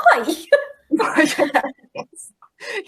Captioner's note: laughing